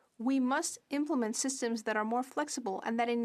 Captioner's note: speaking French